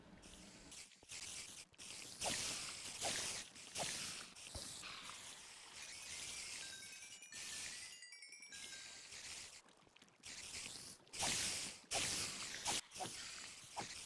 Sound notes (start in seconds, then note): 1.6 cave spider and EXP noises